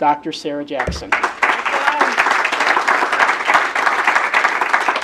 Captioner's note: audience clapping